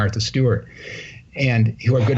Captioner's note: laughter